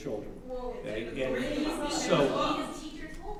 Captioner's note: audience chattering